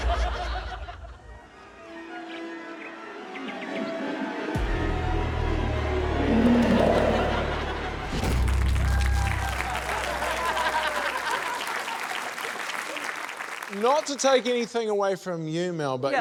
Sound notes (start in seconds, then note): 0.1 ominous music; 2.7 bird twitters; 7.1 laughter; 8.6 cheering, applause